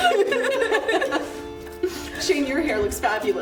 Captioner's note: women laughing